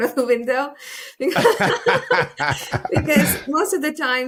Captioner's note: laugh